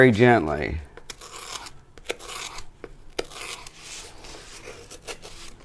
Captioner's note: scissors grates